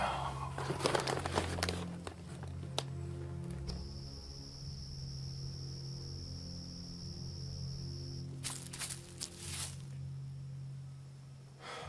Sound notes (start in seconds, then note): 8.4 leaves rustling